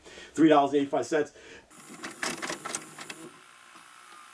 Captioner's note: click